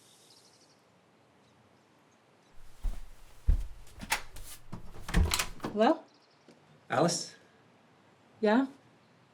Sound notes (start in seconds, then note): 4.2 door opens